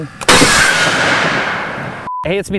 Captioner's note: canon firing